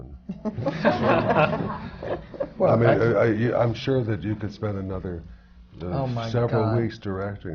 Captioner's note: laughter